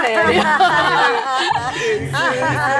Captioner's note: everyone laughs